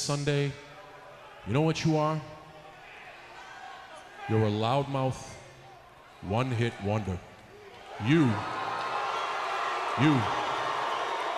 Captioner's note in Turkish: Alkışlar